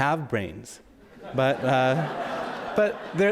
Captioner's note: audience laughs